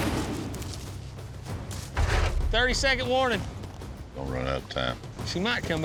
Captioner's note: hoofbeats